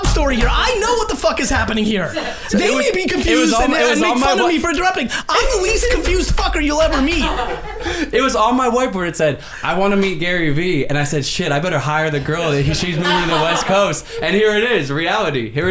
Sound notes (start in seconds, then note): 1.8 group laughs